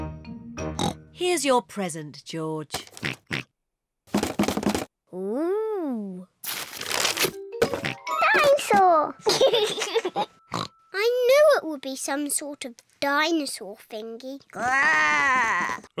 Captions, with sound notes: (OINKS) Here's your present, George. (OINKS) -(RATTLES) -Ooh! (OINKS) Dinosaur! (LAUGHS) (OINKS) I knew it would be some sort of dinosaur thingy. (GROWLS)